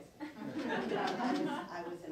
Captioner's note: laughing